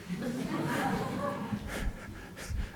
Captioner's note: laughter